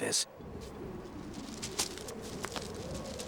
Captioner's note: wind whistling